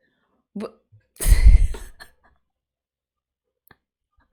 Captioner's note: disbelieving laugh